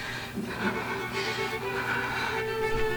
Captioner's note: breathing heavily